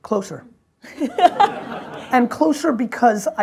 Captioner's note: audience laughs